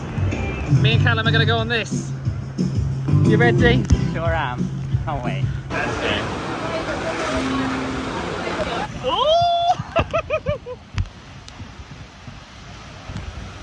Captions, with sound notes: Me and Calum are gonna go on this. (upbeat music) You ready? - Sure am. Can't wait. (guests chattering) - Oh. (giggles)